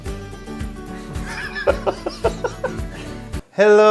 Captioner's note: laughing